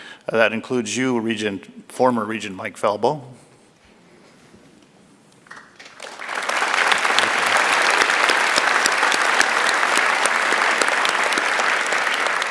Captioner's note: applause